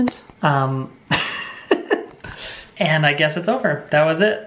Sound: laughs

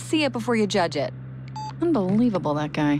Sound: hangs up

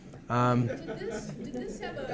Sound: audience laughing

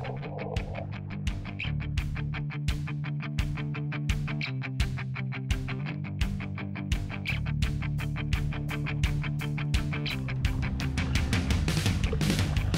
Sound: fish splashing

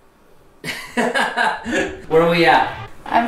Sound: laughter

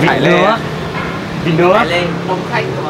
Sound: chatting

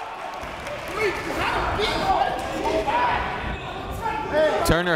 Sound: crowd talking; coaches yelling

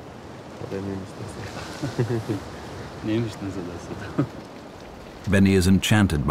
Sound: they speak Farsi

